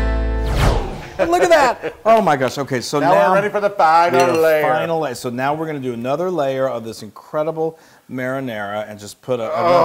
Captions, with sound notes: [LAUGH] >> Look at that. My gosh, okay. So now- >> Now we're ready for the final layer. >> We have final layer. So now we're going to do another layer of this incredible marinara, and